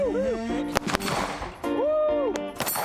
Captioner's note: gun firing